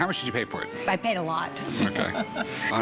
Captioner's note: laughs